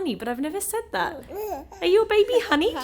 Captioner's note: baby mumbling